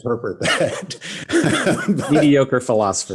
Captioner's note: laughs